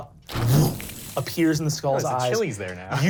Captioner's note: groans; electronic sparkling